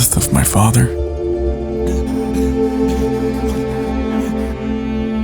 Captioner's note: heavy breathing